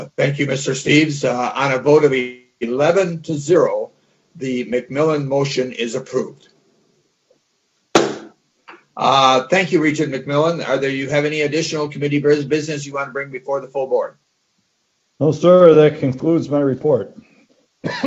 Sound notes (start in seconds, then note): 8.0 gavel bangs